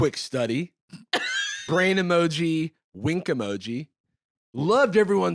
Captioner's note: laughs